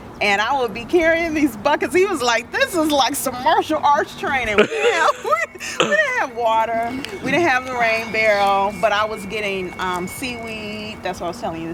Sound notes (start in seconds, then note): 4.4 laughter